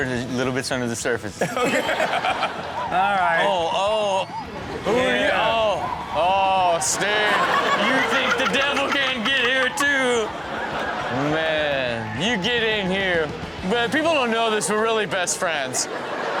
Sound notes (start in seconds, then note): 1.4 laughing